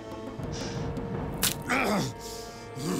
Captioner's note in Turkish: Ok kırma sesi